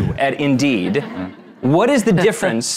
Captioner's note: audience laughing